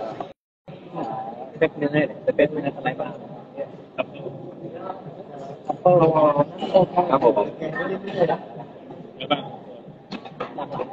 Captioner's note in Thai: เสียงหัวเราะ